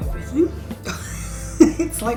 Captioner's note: laugh